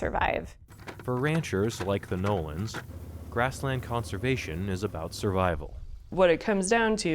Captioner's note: voice-over